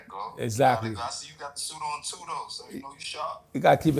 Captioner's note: on phone; on phone